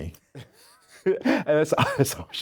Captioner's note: laughs